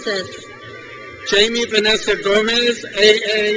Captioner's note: crowd cheers